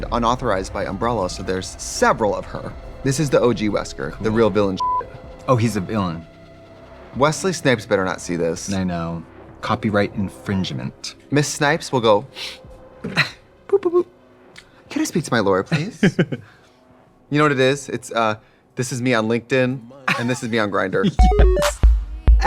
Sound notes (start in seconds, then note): 4.8 beeping; 21.1 bright electronic music